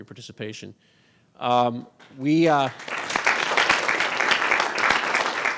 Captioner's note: audience claps